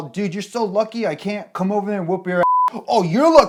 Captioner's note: beep